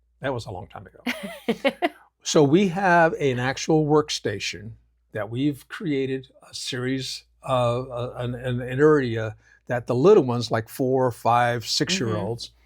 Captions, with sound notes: That was a long time ago. (Laughs) So we have an actual workstation that we've created a series of, an area that the little ones like four, five, six year olds,